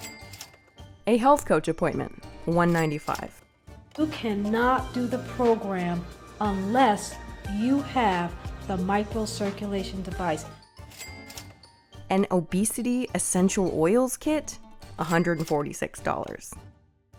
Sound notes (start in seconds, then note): 0.0 cash register rings; 10.8 cash register rings